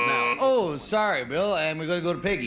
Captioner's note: buzzer